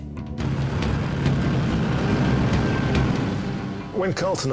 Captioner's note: equipment rumbling